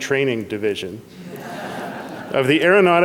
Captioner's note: audience laughs